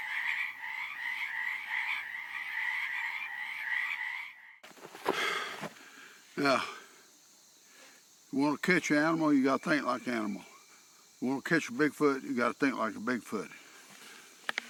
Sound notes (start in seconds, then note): 5.0 exhaling